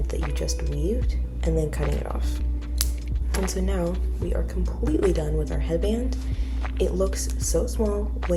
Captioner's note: scissor cuts